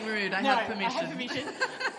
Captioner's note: laughter